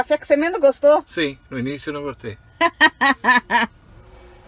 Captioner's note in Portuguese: risos